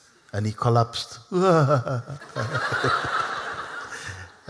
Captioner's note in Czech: Smích